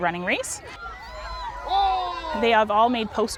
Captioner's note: children cheering